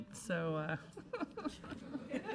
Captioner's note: laughs